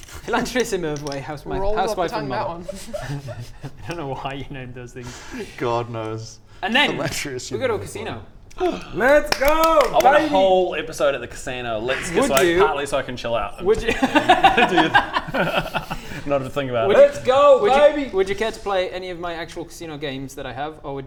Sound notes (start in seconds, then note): 13.9 laughs in defeat